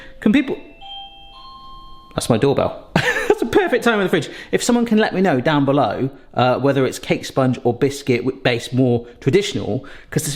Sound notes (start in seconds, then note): 0.0 doorbell ringing; 3.0 laughs